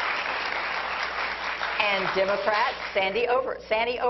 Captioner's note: applause